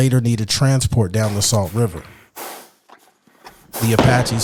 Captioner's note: horse snorting